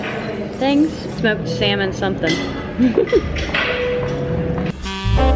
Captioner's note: giggles